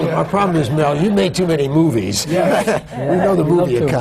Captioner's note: laughter